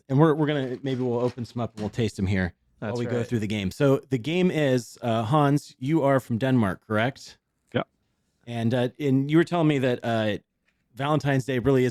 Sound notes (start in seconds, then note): none